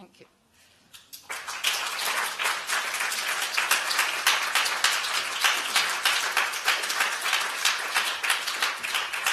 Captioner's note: applause